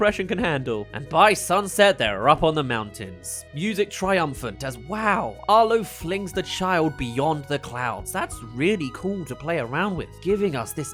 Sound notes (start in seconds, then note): none